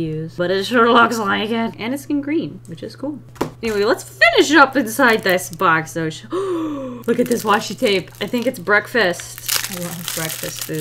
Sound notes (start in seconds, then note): 6.3 gasps